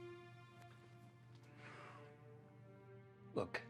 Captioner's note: John sighs